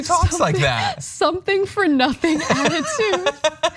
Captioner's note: laugh